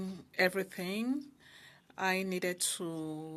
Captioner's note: speaking French